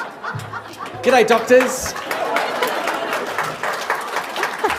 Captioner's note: laughter; laughter and applause